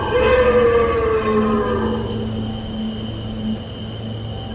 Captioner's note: creatures roaring